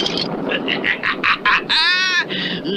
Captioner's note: Simon Bar Sinister Laughs